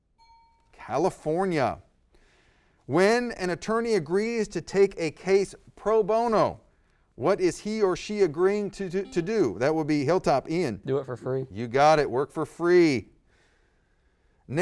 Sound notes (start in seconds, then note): 0.1 ding; 9.5 buzzer